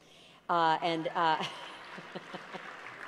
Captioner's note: applause